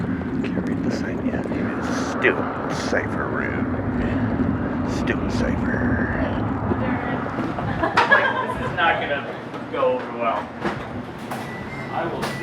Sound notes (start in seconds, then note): 6.8 laughing